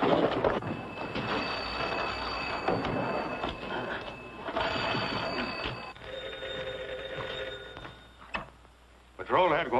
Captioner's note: telephone rings